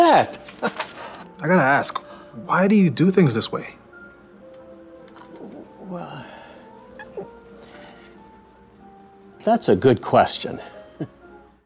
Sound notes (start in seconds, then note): 10.3 laughs